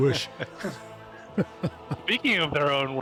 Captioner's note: laughing